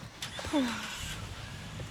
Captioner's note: sighs